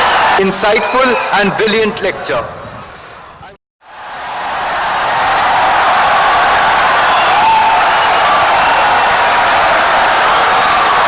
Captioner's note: wild applause and cheering for 17 seconds